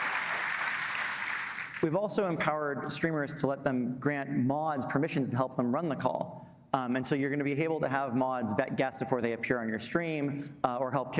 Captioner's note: applause